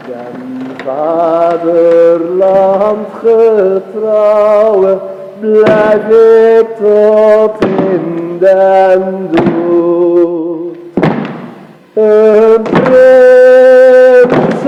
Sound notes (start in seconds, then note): 6.8 stomps with music; 12.0 others join stomping